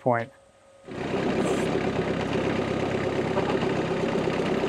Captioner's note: engine revving